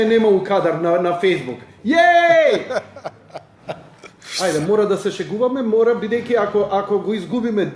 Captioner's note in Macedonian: смеа